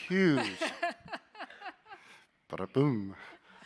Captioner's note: laughing